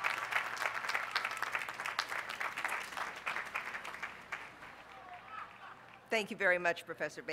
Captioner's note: applause